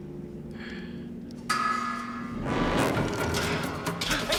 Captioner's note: clang